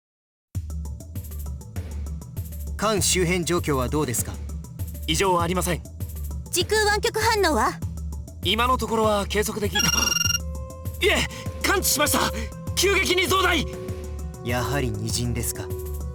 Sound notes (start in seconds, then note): 11.3 gasp